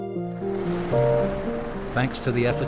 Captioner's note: pensive music; waves crashing